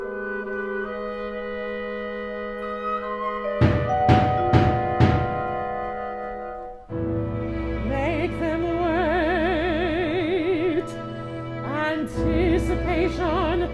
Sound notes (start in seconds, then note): 3.6 pounding on door